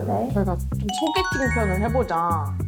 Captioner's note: excited sound effect